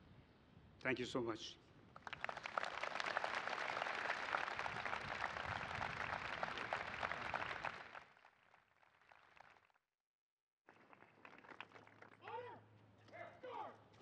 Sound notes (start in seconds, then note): 1.9 applause